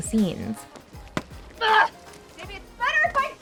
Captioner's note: screams